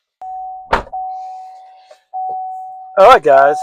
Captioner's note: car Bell, Door Closing